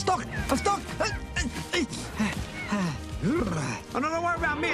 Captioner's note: grunting* *panting* *sputtering